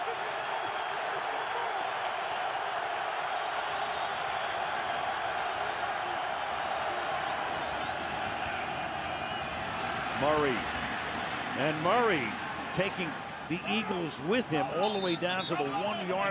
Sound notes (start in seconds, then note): 1.5 crowd cheering